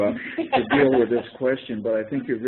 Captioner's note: laughter